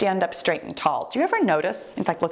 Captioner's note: timer beeps